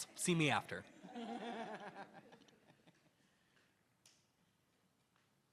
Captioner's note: attendees laughing